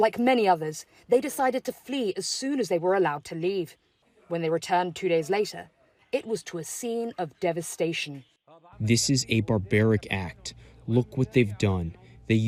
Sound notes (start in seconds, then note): 7.9 through translator